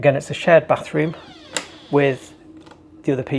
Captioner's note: door creaks